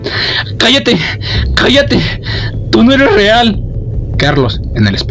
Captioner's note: shouting